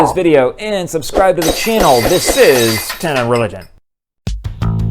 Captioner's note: glass breaking